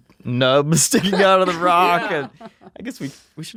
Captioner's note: they laugh